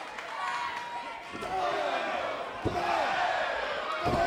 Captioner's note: crowd vocalizing